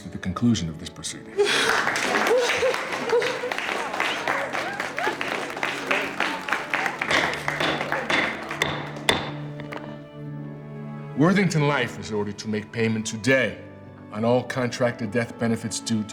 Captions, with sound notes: at the conclusion of these proceedings. (crowd applauding) (crowd cheering) Worthington Life is ordered to make payment today on all contracted death benefits due